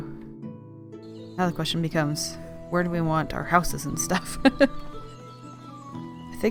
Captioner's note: laughs